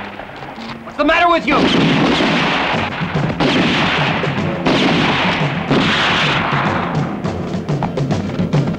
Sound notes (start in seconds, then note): 1.4 guns firing; 1.8 dramatic music